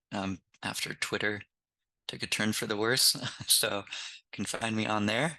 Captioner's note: laughs